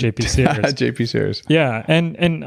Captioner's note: laughs